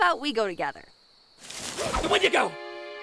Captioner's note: bushes moving